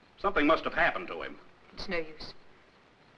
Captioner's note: none